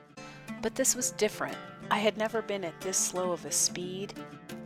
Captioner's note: soft spoken